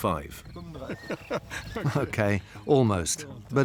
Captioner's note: he chuckles